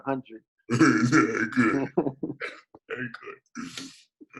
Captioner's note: laughs